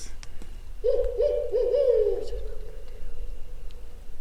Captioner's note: animal howling